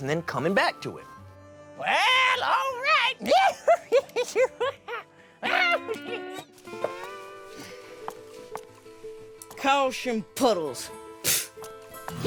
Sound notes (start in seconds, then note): 3.4 laughing; 6.6 footsteps; 11.0 scoffs